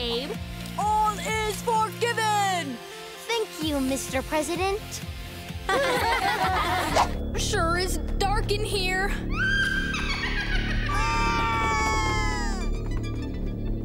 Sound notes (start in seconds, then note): 5.6 laughing; 9.3 screaming